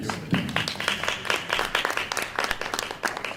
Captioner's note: applause